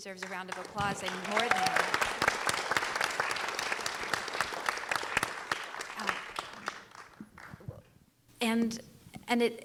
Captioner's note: applause